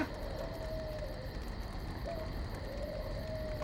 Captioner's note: fire crackles